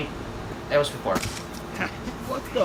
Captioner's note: camera clicks